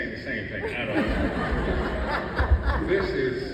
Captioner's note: audience laughs